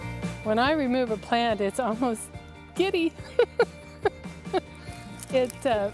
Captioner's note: laughing